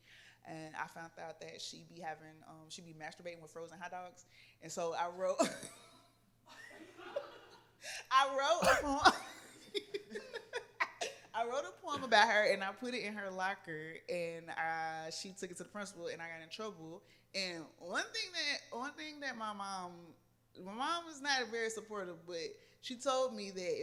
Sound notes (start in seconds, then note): 6.5 laughter